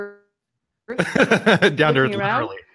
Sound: laughs

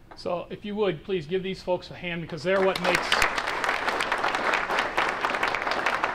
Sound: applause

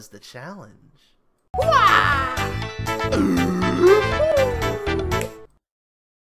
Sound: Oodle makes weird noises with each pose

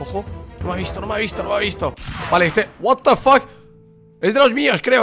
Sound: shot

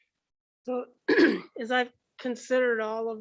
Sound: clears throat

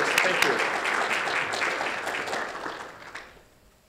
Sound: applause

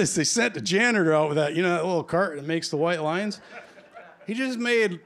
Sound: laughter

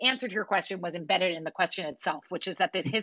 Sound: laughter

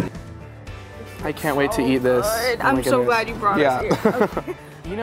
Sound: laughing

